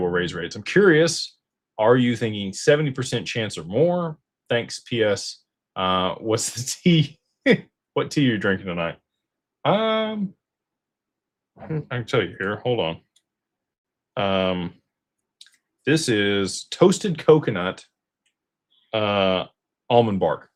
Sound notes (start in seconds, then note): 10.9 clears throat